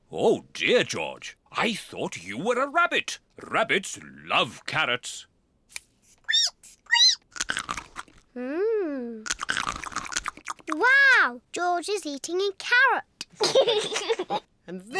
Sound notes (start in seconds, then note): 6.9 squeaks and crunches; 13.3 giggles